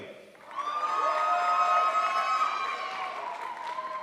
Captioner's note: crowd applauds